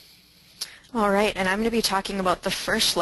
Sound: voiceover

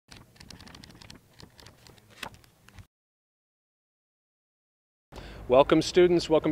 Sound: book pages flipping

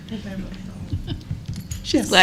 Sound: laughter

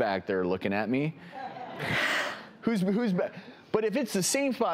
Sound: laughter

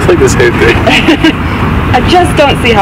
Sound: laughs

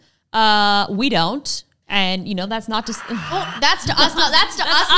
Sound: crowd applauding

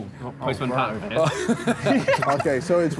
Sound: all laughing

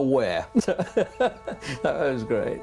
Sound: chuckles

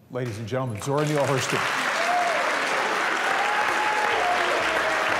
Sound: cheers and applause

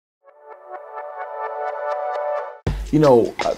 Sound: intro sound

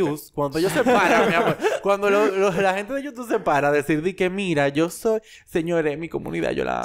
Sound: laughs

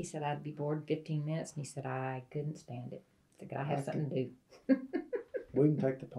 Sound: laughs

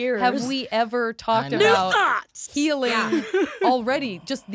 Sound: excitedly

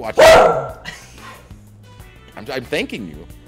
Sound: laugh

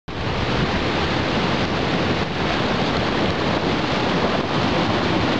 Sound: water streaming

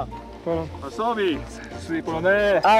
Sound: speaking polish

